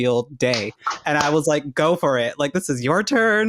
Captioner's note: clapping